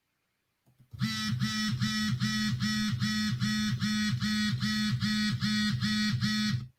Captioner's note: phone vibrating